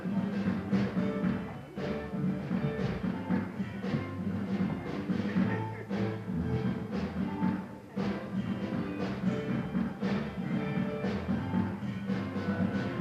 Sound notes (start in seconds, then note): 1.4 applause